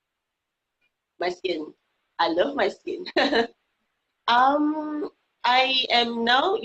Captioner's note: laughing